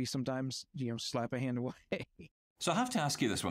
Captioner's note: chuckles